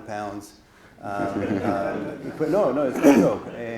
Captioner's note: audience laughs